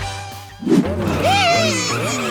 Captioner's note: grunting